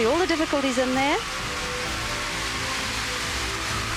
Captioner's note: crowd cheering